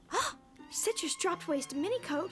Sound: gasping

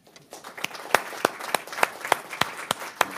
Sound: applause

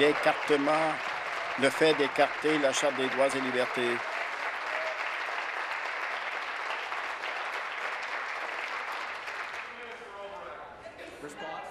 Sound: applause

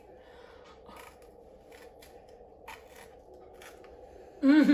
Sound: crunching

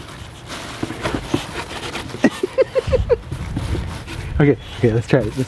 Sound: laughs

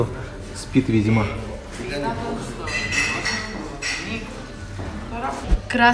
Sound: din and clink of dishes

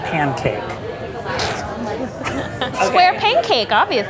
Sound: laughs

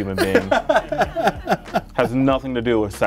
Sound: laughs

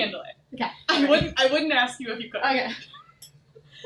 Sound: chuckles

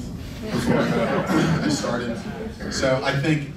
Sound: laughing

